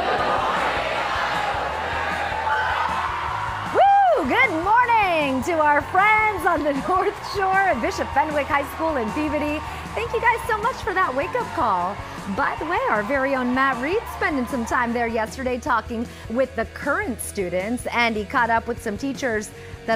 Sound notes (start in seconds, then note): 8.4 applause